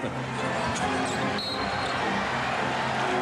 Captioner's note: whistle blows